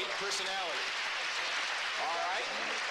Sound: applause

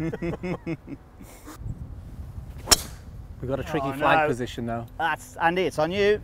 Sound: laughing

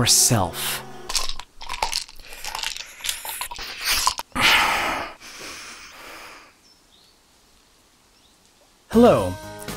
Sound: pills rattling in pill bottle

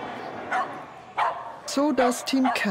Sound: dogs barking

